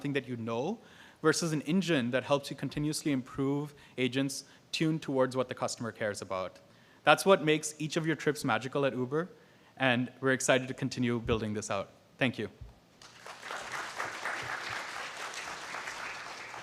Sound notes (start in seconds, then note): 13.0 applause